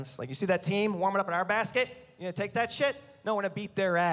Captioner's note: none